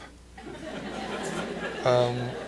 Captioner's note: laughter